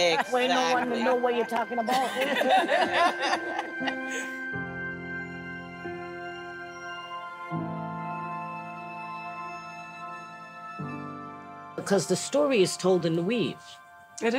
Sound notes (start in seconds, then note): 1.8 group laughs; 4.1 gentle music continues